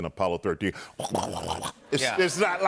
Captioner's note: imitating rumbling